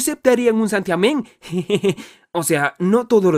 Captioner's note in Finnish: naurahtaa